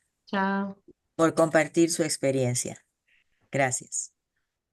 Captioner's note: speaking in foreign language